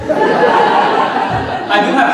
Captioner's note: audience laughing